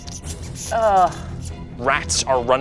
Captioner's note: imitates rat squeaking; groans